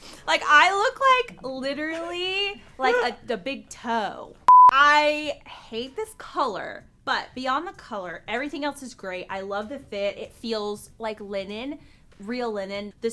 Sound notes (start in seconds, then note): 4.5 beep